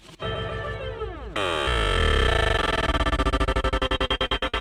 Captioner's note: electronic pulses